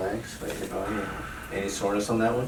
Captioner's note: patient exhales